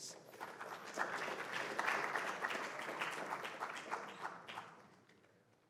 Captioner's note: applause